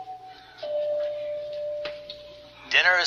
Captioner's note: bell dinging